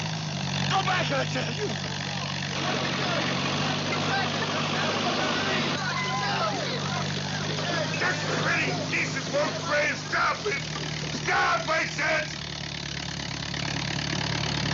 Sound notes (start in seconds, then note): 3.9 crowd Clamoring; 5.7 clamoring Continues, Woman Screams